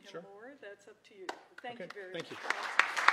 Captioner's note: applause